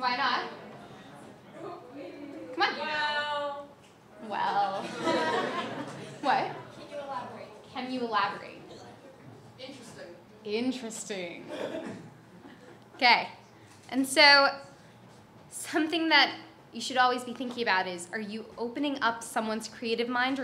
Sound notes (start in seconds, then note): 3.4 voiceover; 4.7 audience laughs; 7.2 voiceover; 9.7 voiceover